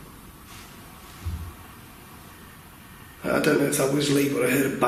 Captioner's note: steps banging